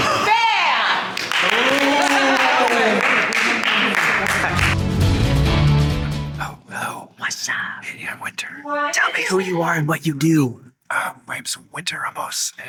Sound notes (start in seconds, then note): 1.0 people clapping; 4.4 upbeat bright music